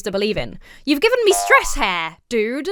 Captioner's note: spring boings